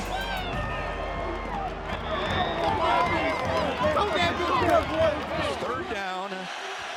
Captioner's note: loud cheering from crowd